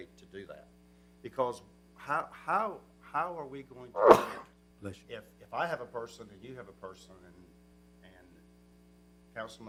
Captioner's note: sneeze